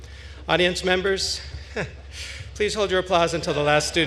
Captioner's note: chuckles